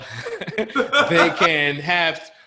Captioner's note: laughter